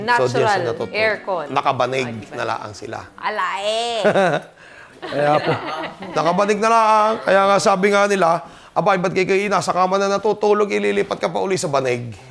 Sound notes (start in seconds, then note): 5.0 laughs